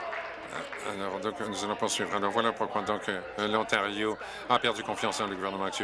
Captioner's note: applause